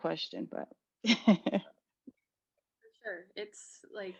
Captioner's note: laugh